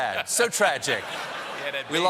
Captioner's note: laughter